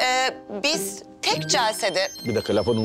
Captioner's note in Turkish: Telefon çalıyor